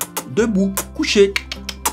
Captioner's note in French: bruit de bouche